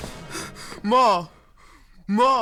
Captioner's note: door opens; panting